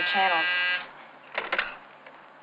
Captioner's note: buzzer buzzing